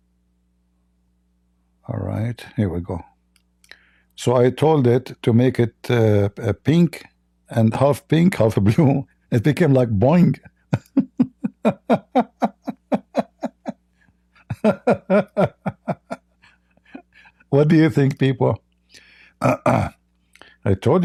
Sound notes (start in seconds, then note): 10.4 Ketawa